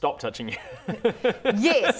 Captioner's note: laughter